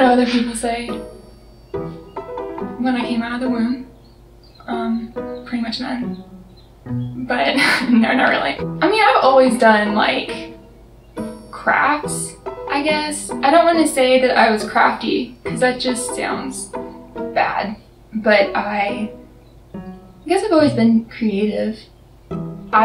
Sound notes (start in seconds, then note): 7.4 laughs